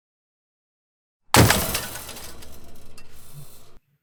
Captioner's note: crash